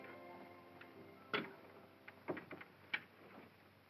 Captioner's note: door closes